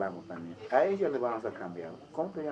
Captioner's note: in spanish